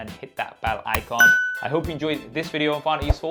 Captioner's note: upbeat music; bell dings